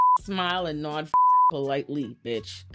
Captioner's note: beep